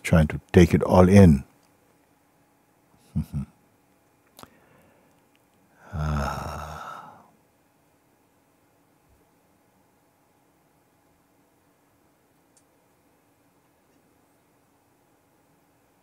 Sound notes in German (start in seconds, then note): 5.7 seufzt; 9.1 Stille